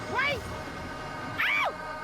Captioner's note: shrieks